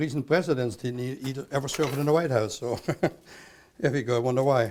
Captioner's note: laughs